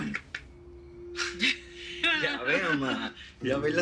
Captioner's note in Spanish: Risas